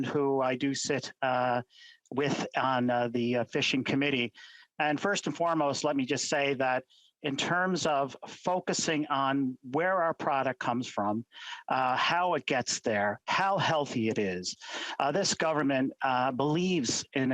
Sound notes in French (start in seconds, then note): 1.3 voix de l'interprète